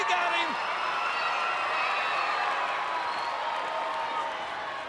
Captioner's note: audience cheering